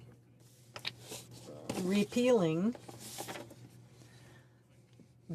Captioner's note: speaking French